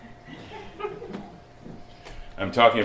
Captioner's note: slight laughter